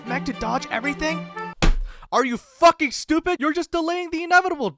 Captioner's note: slam